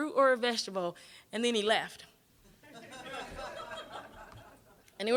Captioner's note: audience laughing